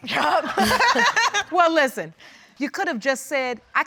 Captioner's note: laughing